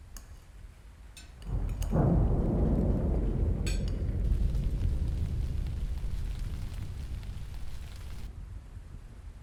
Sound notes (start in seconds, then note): 1.5 thunder pounding